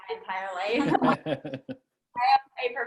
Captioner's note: laughs